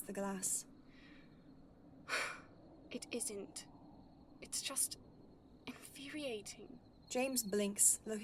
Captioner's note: Lily sighs